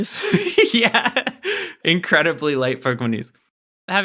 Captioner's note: laughing